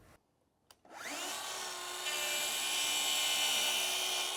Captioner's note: saw whirring